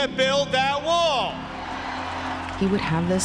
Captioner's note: cheers